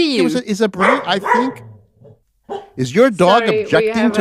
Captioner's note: dog barking